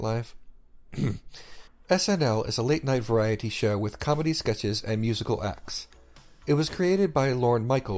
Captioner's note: coughs